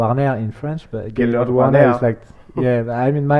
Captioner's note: tries to copy his accent